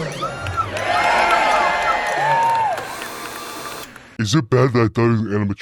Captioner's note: audience cheering